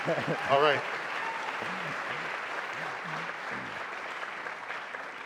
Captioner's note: applause